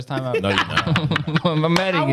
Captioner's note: laughing